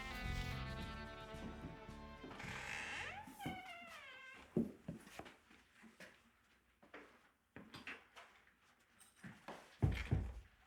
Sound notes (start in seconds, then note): 1.4 door creaking